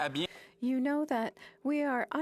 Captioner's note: speaking French